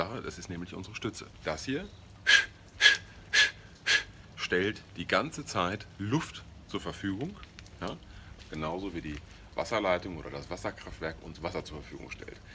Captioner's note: exhalation sound